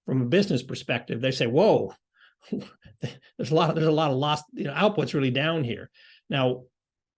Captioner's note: laugh